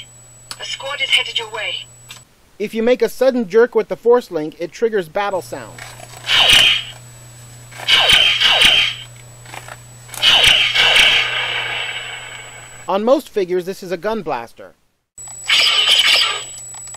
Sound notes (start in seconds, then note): 6.1 laser Sounds; 15.4 various Blaster Sounds